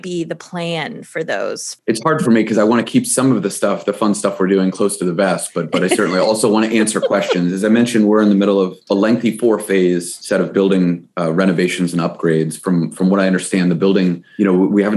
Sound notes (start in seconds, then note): 5.2 giggles